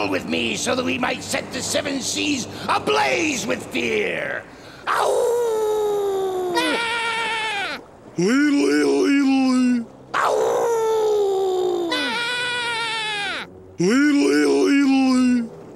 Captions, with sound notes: so that we might set the seven seas ablaze with fear. [howling] [bleating] Leedle-leedle-leedle-lee! [howling] [bleating] Leedle-leedle-leedle-lee!